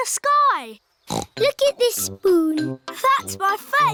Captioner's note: snorts